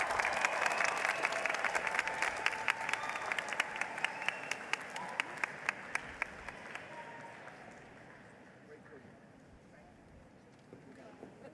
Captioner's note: applause